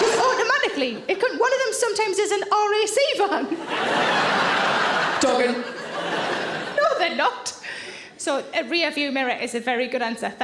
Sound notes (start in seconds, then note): 3.5 audience laughing